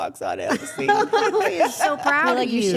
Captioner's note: everyone laughing